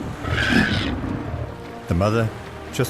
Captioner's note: calf trumpets